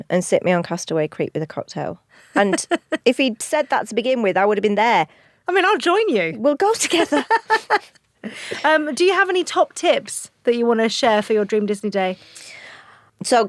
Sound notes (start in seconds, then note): 6.8 laughs